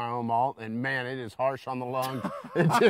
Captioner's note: both laughing